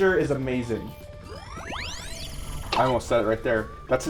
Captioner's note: electronics chirping